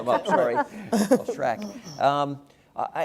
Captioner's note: laugh